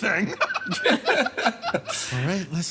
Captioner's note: laughs